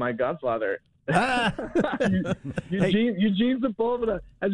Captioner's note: laughs